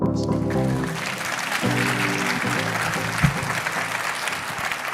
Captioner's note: audience clapping